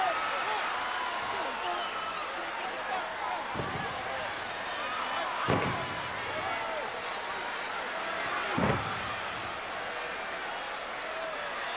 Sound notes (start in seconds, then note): 0.7 audience chattering